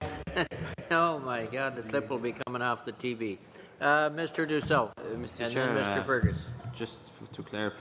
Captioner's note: laughter